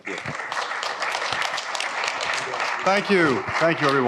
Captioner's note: applause